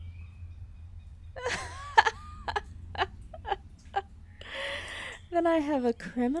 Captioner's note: laughter